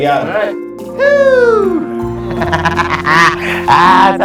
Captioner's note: laughing